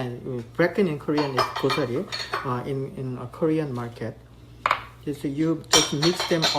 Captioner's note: speaking Korean; speaks Korean